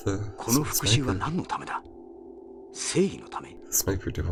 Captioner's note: speaking in-game